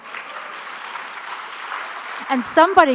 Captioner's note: audience applauds